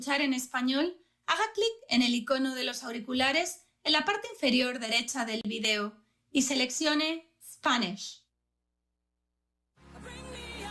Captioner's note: speaking spanish